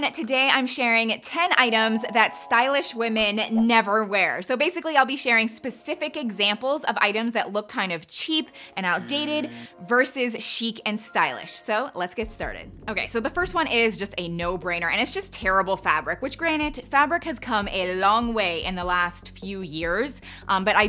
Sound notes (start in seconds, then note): 9.0 buzzer sounds; 11.0 tone dings